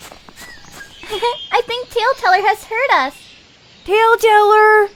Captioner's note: giggles